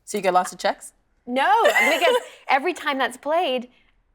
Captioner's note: laughing